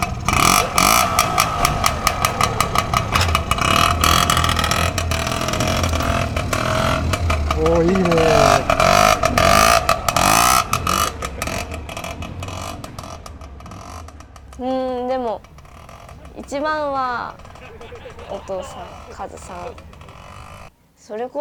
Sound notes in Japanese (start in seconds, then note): 0.0 エンジンの音; 10.1 エンジンの音